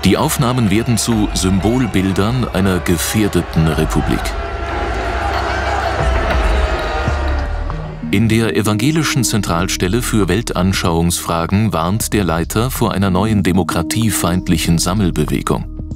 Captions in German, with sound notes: Die Aufnahmen werden zu Symbolbildern einer gefährdeten Republik. (Geschrei) In der Evangelischen Zentralstelle für Weltanschauungsfragen warnt der Leiter vor einer neuen demokratiefeindlichen Sammelbewegung.